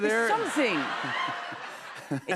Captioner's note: laughter